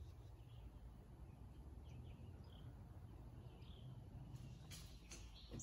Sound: birds chirping

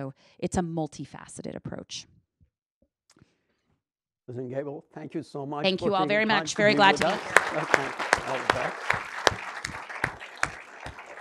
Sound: clapping

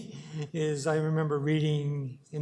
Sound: chuckles

